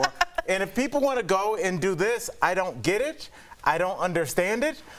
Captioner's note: laughter